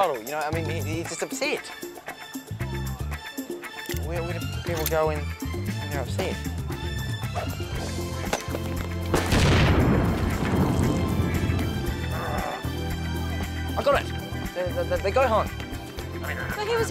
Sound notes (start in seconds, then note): 9.1 grenade exploding